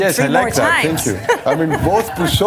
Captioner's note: laughter